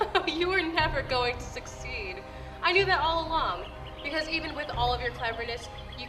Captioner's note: laughs